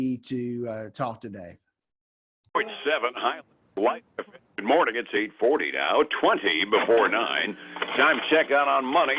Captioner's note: static